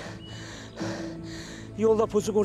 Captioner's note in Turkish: Nefes sesi